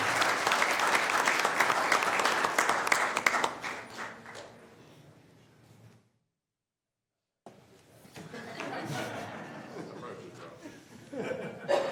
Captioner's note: applause